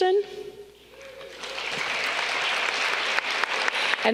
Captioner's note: audience clapping